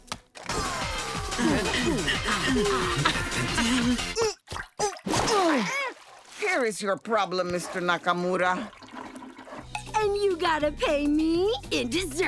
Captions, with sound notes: [electronic music playing] [grunting] Here's your problem, Mr. Nakamura. And you gotta pay me in desserts.